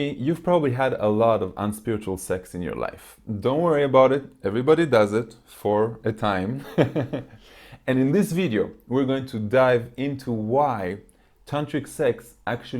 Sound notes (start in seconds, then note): 6.6 laughs